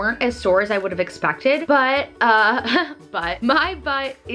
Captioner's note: laughs